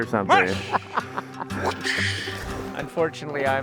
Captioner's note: laughing